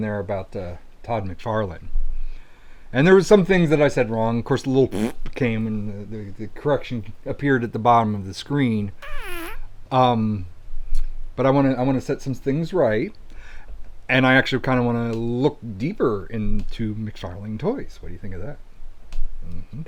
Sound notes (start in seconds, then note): 9.0 fart sound